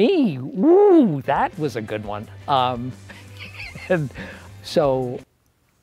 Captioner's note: laughs